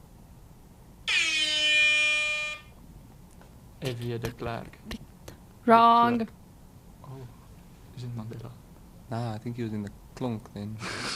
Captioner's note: horn Sound